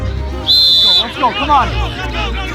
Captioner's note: whistle blows; shouts of encouragement